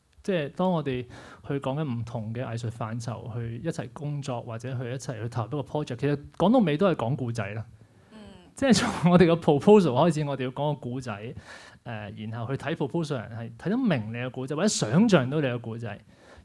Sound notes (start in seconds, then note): 8.5 laughs